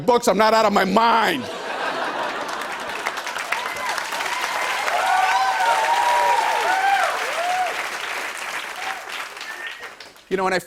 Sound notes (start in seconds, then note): 1.3 laughter; 3.8 cheers and applause; 7.6 applause continues